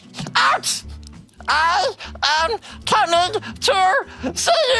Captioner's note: laughter